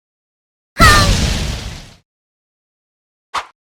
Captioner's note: Sound of when you stub your toe in Silksong